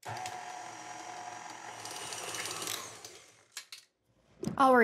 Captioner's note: quiet whirring